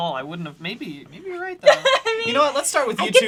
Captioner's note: laughs